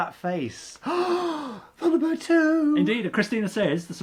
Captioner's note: gasps